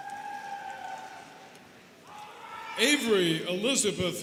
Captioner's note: students cheering